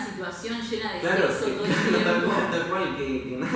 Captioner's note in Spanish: Risas